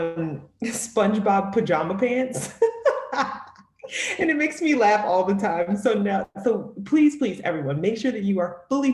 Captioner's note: laughter